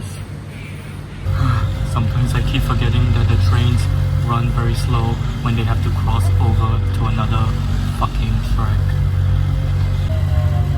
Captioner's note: sigh